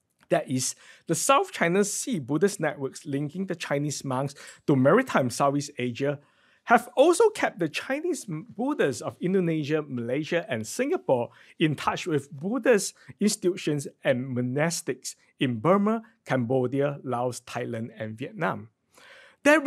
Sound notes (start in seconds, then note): none